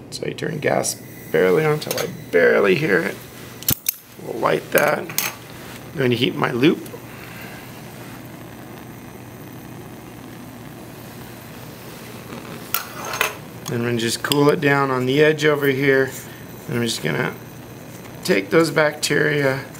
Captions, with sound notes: So I turn gas barely on until I barely hear it. (spark lighter clicks) We'll light that. I'm going to heat my loop, and I'm gonna just cool it down on the edge over here, and I'm just gonna take those bacteria